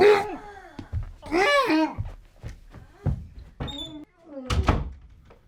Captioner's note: Butch yelps